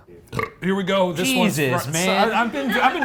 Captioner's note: burps